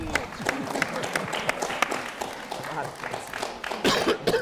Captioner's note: audience applauding